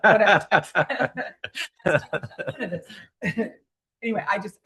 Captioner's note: laughter